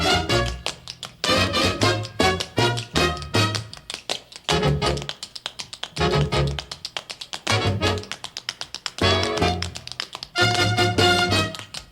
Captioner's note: tap dancing